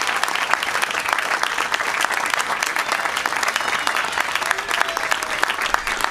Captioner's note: applause